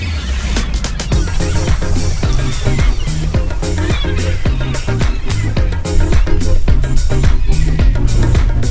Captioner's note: squeeky wueeky noises from birds